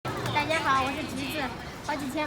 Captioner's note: Mandarin